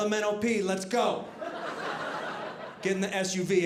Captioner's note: audience laughing